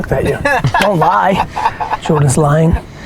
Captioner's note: laughs